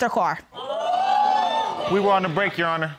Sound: audience exclaiming

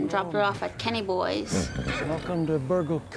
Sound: horse neighs

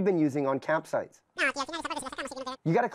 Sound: super fast cartoon voice over telephone

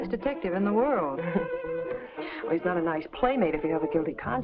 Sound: chuckles

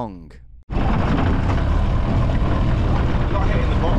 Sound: engine sputters

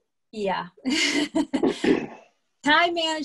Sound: laughs

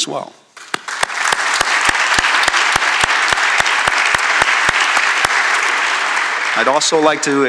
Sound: applause

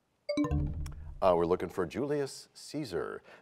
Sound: bell chimes, time expires

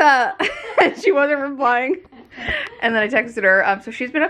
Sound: both laughing

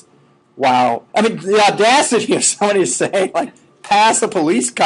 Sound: laughing

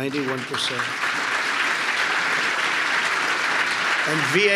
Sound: applause

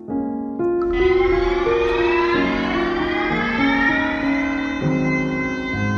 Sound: siren blaring

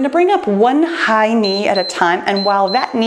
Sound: timer beeps

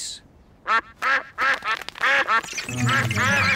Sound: all quack

